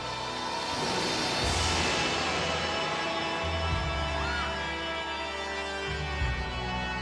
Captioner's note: ominous music continues; lighting crashing